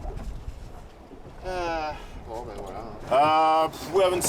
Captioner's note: sighs